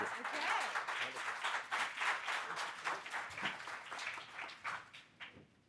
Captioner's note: audience applauding